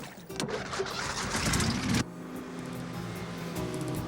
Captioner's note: motor rumbling; boat buzzing